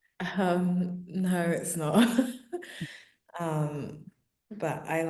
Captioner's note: chuckling